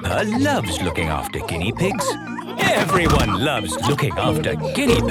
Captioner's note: laughter